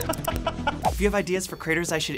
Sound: laughs

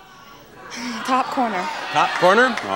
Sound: audience shouting

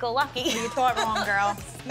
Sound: chuckles

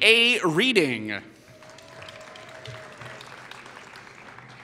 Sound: applause

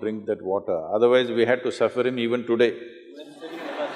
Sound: laughter

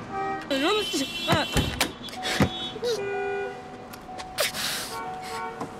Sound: cars honking; panting; cars honking

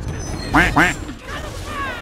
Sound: double quack

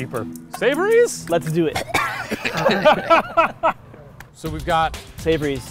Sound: coughs

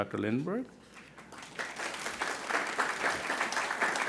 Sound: crowd applauding

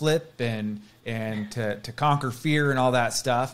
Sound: chuckles

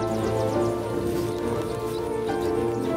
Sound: bison munching

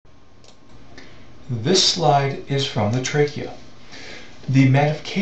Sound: voiceover

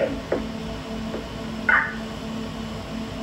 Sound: radio Beep

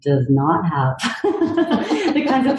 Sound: laugh

